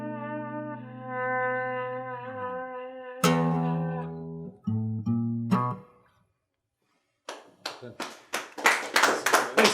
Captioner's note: music Fades, clapping